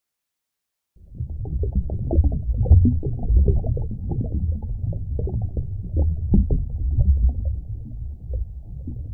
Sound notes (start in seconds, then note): 1.1 water bubbling